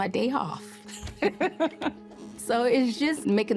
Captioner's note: laughs